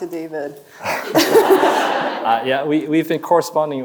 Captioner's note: chuckles; audience laughing